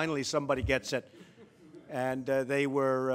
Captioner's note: laughter